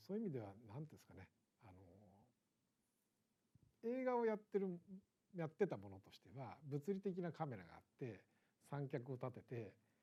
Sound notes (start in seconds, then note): none